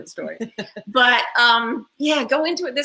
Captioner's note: laughs